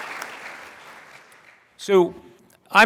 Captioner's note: applause